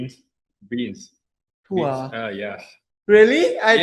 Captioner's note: in Thai